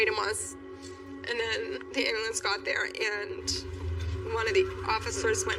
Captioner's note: siren